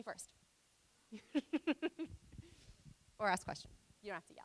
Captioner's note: laughing